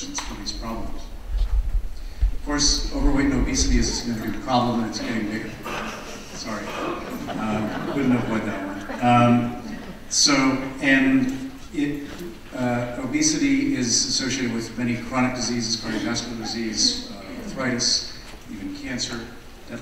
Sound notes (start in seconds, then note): 6.2 audience chuckling; 7.9 audience laughing